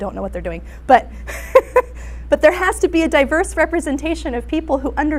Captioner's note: laughs